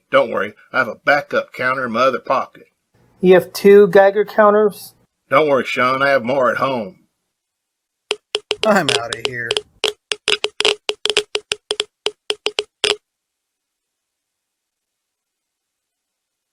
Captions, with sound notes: Don't worry, I have a backup counter in my other pocket. - You have two Geiger counters? - Don't worry, Sean, I have more at home. (Geiger counter clicking) - I'm outta here.